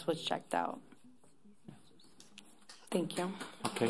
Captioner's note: applause